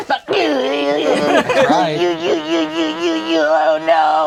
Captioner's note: crowd laughing; alien grunting